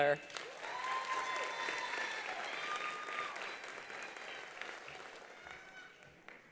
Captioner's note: attendees applauding; attendees cheering